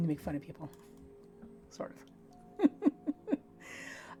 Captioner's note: chuckling